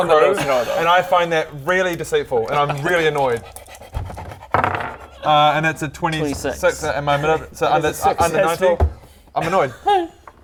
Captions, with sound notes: He's the one that needs to know though and I find that really deceitful and I'm really annoyed *smug panting* and that's a 26 and my mani- - so it's under 90 - that's a successful I'm annoyed